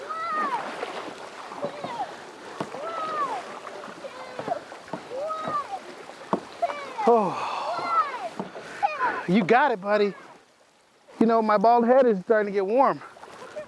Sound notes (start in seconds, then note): 7.0 sighs